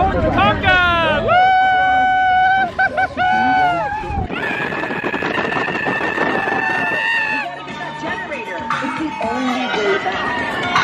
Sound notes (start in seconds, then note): 3.4 wind buffeting mic; 4.4 screaming